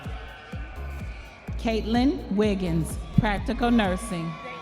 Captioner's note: audience members cheering